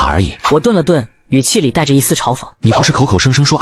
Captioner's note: scoffing